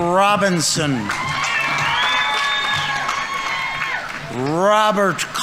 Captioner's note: audience members cheering; audience applauding